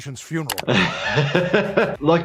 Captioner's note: laughs